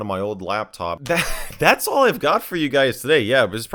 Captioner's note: laughs